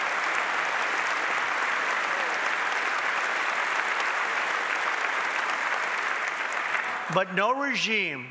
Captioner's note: applause